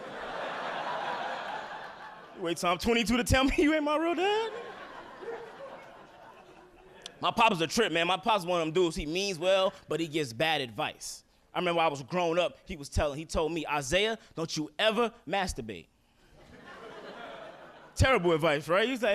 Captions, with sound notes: (audience laughing) You wait till I'm 22 to tell me you ain't my real dad? (audience laughing) My pop is a trip, man. My pops one of 'em dudes he means well, but he gives bad advice. I remember I was grown up he was telling, he told me, Isaiah, don't you ever masturbate. (audience laughing) Terrible advice, right?